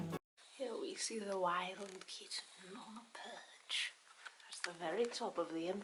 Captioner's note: weird documentary narrator voice